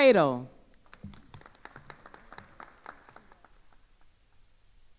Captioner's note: attendees applauding